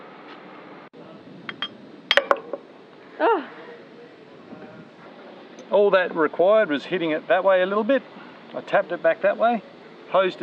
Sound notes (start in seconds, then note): 2.1 clanging